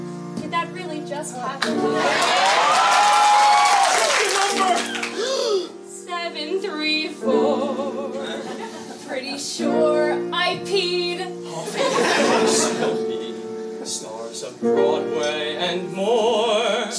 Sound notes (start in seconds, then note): 5.1 gasp